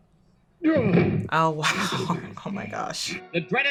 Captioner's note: chuckles